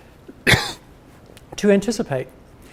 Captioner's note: coughs